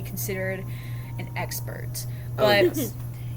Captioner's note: laughs